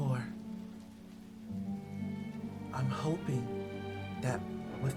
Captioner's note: crack of lightning